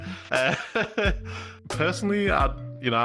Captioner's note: laughs